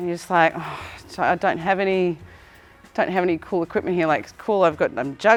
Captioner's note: sigh